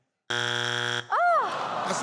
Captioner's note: buzzing; audience awwing